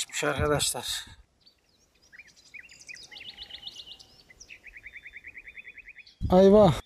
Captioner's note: bird sounds